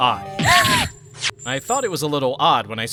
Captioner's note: gasp!